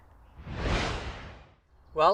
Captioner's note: whooshing